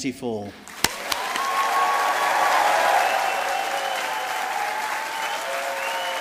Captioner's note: audience applauding